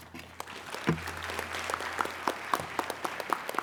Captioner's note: applauding